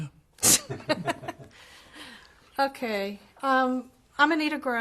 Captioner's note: laughs